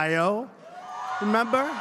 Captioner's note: applause